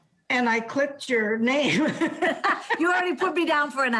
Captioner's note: laughs